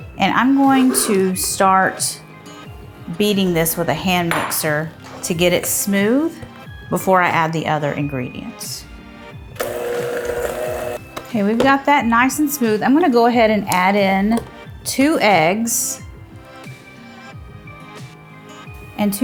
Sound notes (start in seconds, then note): 9.5 mixer whirring; 9.5 bright upbeat music; 16.2 bright upbeat music continues